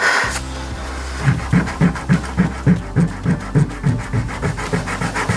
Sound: blows; eraser rubbing

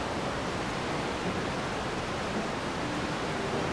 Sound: water rushing

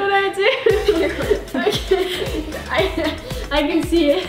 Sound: laughing

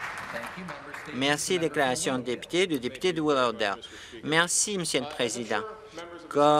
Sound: some Applause

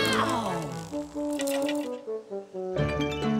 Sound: croak

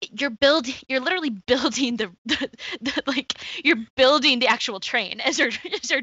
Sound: laughs

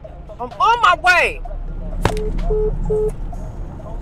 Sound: phone beeps

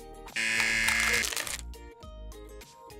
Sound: buzzer rings

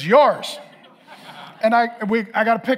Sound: congregation laughing

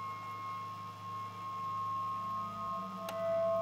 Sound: eerie noises

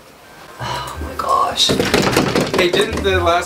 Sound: banging on door

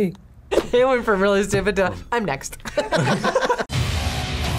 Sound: laughs; tense music

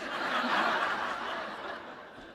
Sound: laughter

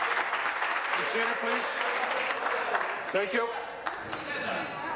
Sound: applause

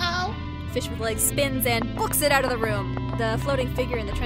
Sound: erratic clacks, fading

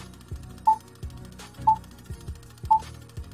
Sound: beeping

